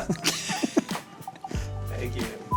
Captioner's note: both laughing